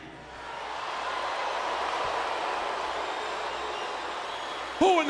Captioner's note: crowd cheering